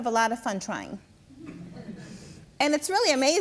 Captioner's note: audience laughs